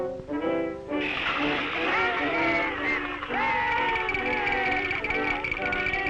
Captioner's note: crowd exclaiming and cheering